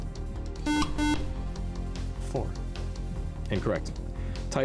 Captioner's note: buzzer